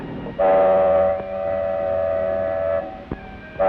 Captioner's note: boat whirs; horn blows